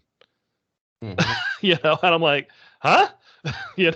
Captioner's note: laughing